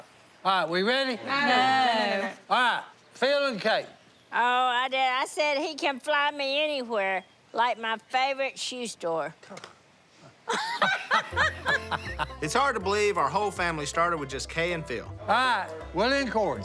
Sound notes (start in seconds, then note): 10.4 laughter